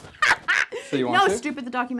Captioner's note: laughs